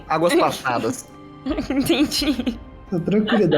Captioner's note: laughing